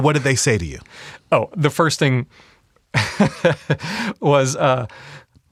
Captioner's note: laughs